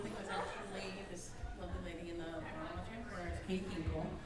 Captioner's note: speaking faintly